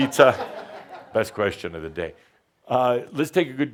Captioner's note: laughter